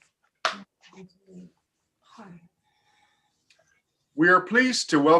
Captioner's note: woman speaks faintly